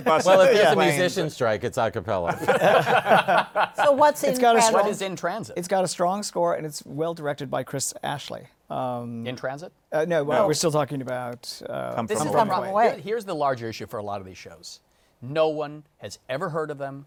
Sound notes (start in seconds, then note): 2.3 laughter